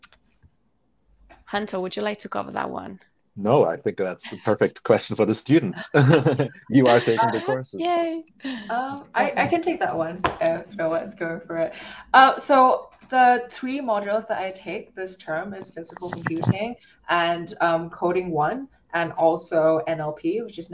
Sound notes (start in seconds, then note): 5.5 laughs